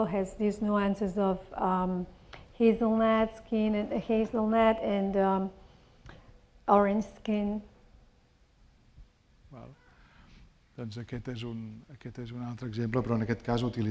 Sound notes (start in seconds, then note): 9.9 speaking spanish